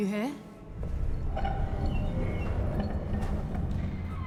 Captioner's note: doors creaking